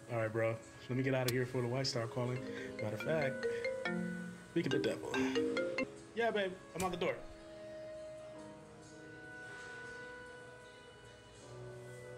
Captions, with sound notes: - All right, bro, let me get out of here before the wife start calling. (phone rings) Matter of fact, speak of the devil. Yeah, baby, I'm out the door. (emotional dramatic music)